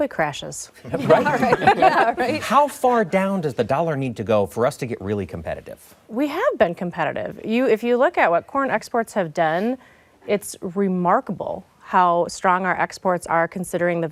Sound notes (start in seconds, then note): 0.8 laughter